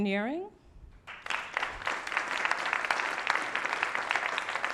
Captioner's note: applause